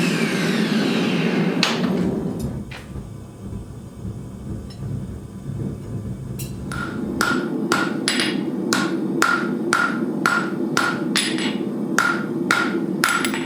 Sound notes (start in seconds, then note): 2.5 furnace roaring; 7.7 hammer banging